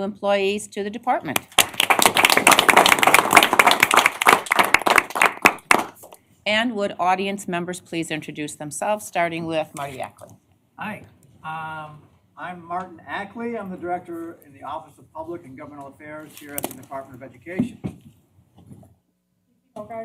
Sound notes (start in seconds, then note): 3.8 applause